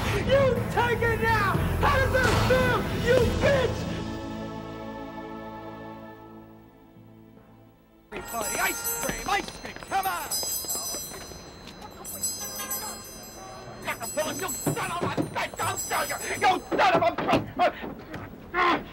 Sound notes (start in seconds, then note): 10.7 bell ringing